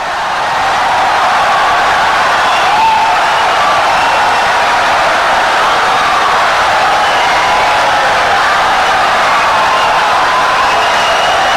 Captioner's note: wild applause and cheering for 17 seconds